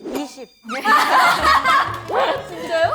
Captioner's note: laughter of embarrassment